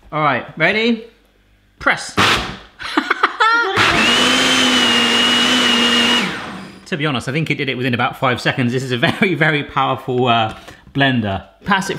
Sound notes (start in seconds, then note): 3.8 grinding noise